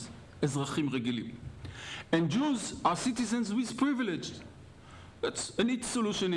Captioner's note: speaking hebrew